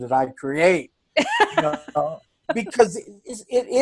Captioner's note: laughs